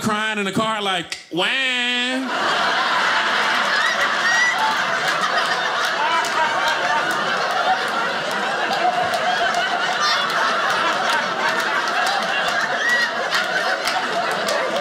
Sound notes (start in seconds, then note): 2.1 audience laughing